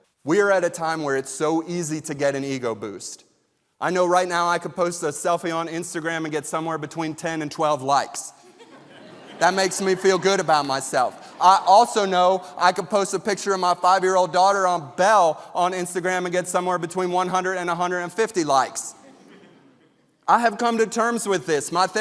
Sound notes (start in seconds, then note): 8.4 audience laughing